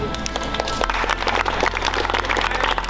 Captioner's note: claps